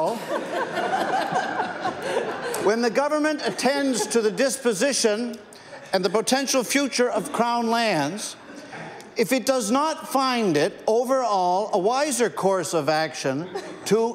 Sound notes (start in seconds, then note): 3.3 laughter